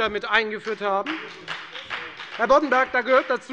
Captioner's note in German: Beifall bei der FDP